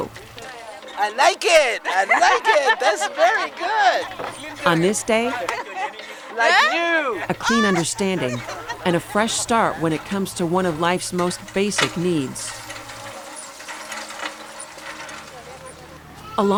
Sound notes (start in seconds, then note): 4.0 scrubbing